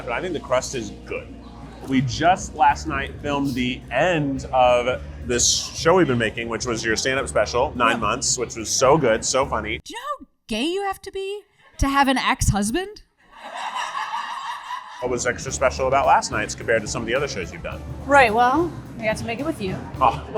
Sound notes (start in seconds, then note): 13.3 audience laughs